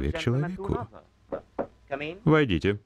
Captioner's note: door knock